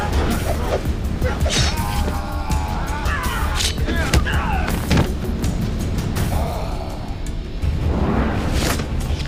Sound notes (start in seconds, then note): 1.2 Naga screams; 4.8 thudding